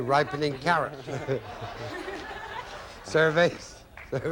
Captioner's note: audience laughing